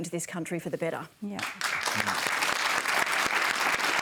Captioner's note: applause